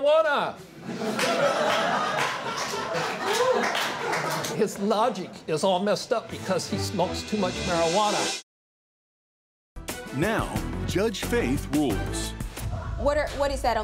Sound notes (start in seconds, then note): 2.4 crowd laughs